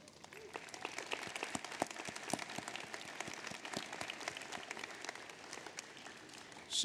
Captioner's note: applause